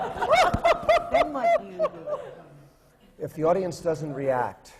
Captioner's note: laughter, especially from the panel